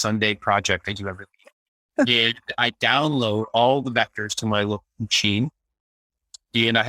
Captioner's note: laughing